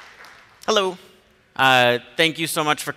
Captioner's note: applause